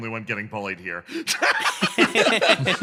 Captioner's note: laugh